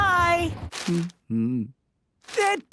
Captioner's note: humming